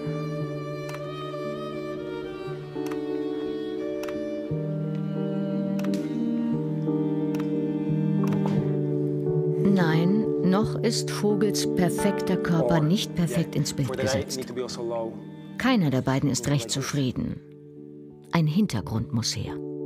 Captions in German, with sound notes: (Ruhig bewegte Musik) (Mehrfaches Kameraklicken) Nein, noch ist Vogels perfekter Körper nicht perfekt ins Bild gesetzt. Keiner der beiden ist recht zufrieden. Ein Hintergrund muss her.